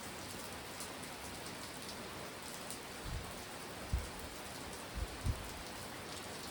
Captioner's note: intense rainfall